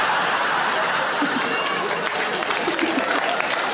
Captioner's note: audience laughs and applauds; Sarah giggles; audience applaud